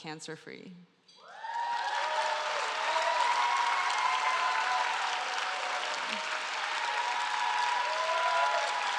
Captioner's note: applause